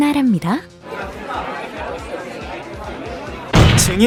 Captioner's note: crowd murmuring